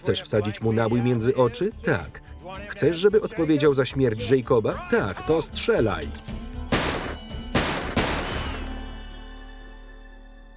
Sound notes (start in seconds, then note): 4.6 gunfire